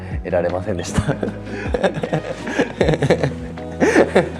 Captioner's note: laughs